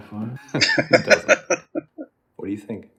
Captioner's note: laughing